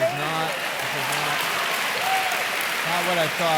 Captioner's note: audience clapping and laughing